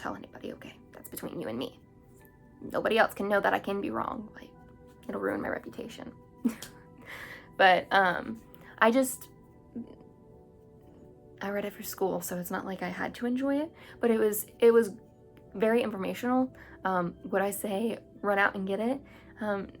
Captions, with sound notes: Don't tell anybody... Okay? That's between you and me Nobody else can know that I can be wrong It'll ruin my reputation (silly giggles) But I just I read it for school So it's not like I had to enjoy it but it was very informational Would I say run out and get it?